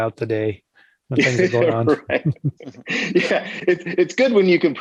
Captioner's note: both laughing